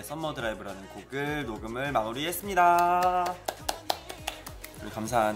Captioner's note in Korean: 박수